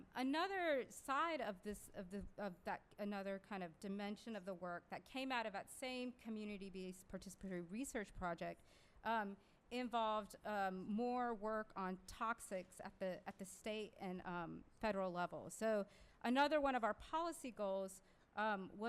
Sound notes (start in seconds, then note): none